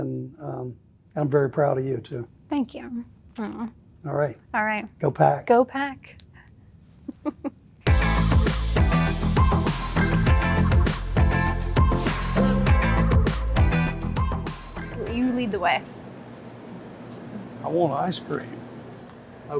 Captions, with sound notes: and I'm very proud of you too. - Thank you. - All right. - All right. - Go Pack. - Go Pack. (Laughing) (upbeat music) You lead the way. - I want ice cream.